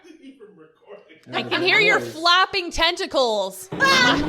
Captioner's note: laughter